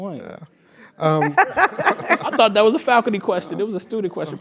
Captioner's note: laugh